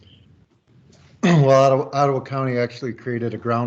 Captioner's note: pat